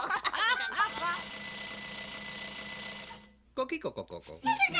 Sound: bell rings

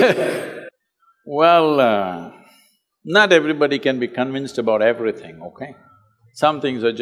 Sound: laughs

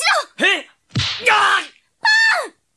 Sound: SFX: hit

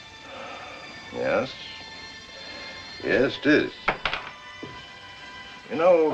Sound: sighs

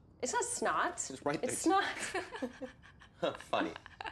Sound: laughing

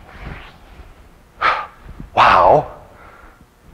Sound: exhales loudly

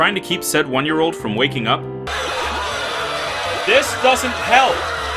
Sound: alarms and screaming!

